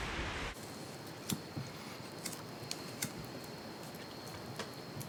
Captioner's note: crickets chirping